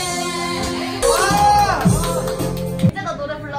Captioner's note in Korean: 박수